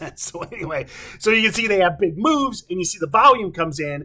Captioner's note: chuckling